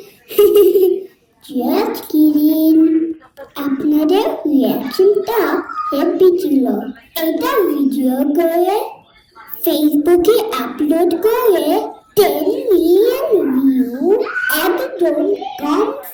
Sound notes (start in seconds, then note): 0.0 giggling